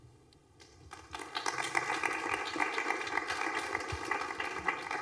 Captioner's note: applause